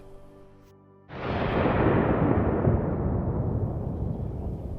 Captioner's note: explosion